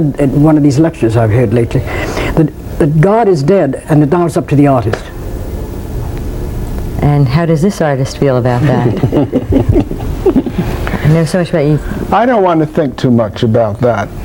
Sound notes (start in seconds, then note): 8.7 chuckles